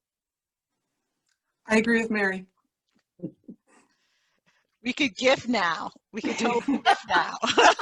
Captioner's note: haha